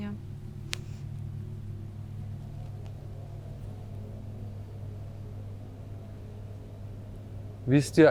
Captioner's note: wind in the background